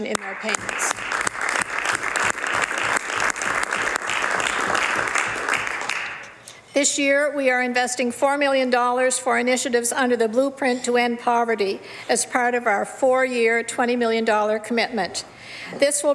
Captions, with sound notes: CLIENTS EARN MORE MONEY WITHOUT SEEING A REDUCTION IN THEIR PAYMENTS. [ Some Applause ] THIS YEAR, WE ARE INVESTING $4 MILLION FOR INITIATIVES UNDER THE BLUEPRINT TO END POVERTY AS PART OF OUR